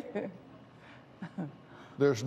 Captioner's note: laughs